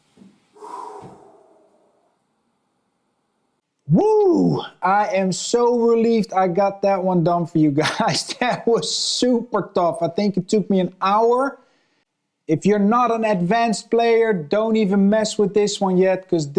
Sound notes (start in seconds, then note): 0.1 exhaling